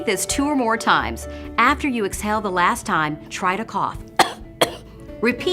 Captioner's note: coughing